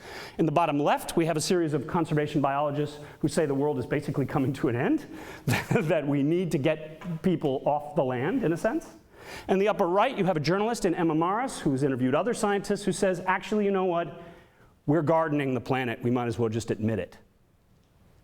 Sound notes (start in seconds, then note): 5.5 laughs